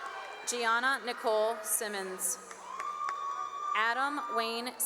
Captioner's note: cheering and applause